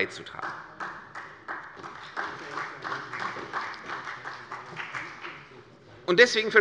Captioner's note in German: Beifall bei der CDU und dem BÜNDNIS 90/DIE GRÜNEN